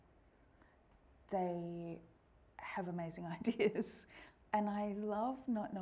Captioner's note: laughing